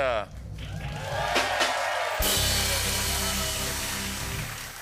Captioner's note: cheers and applause